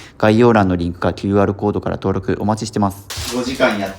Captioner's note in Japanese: none